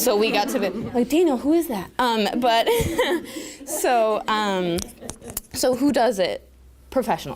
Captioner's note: laughter